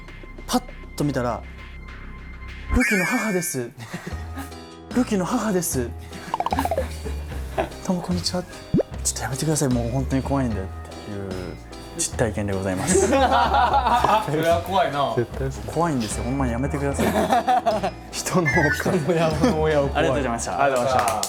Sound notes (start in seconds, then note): 6.3 haha